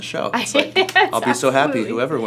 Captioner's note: laughs